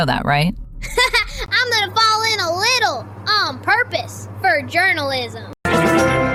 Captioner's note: laughs